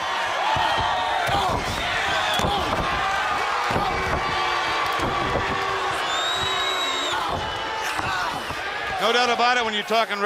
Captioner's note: crowd cheering